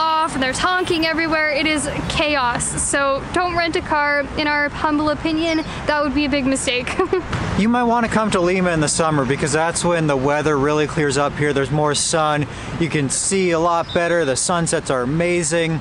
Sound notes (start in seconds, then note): 6.8 giggles